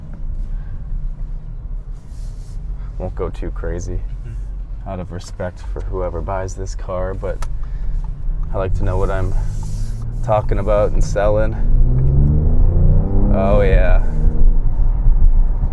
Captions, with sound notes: Won't go too crazy. Out of respect for whoever buys this car, but I like to know what I'm talkin' about and sellin'. (engine revving) Oh, yeah!